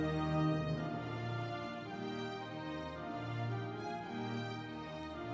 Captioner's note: audience applauding